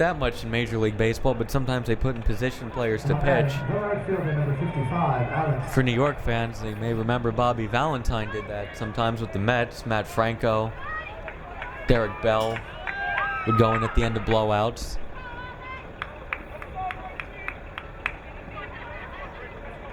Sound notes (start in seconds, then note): 16.0 crowd cheering